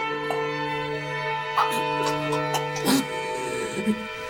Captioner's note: painful regurgitating